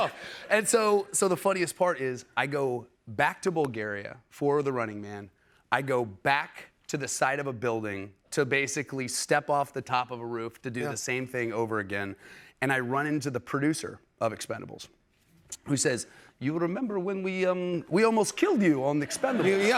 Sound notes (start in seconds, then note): 16.1 global accent